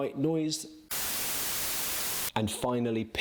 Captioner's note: static blaring